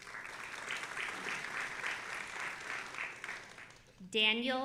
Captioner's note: audience applauding